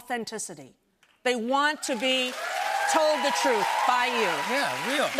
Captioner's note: cheers and applause